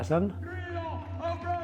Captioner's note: crowd chanting